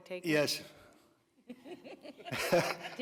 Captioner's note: laughter